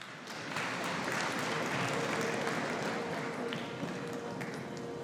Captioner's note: audience applauding